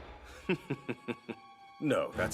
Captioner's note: chuckles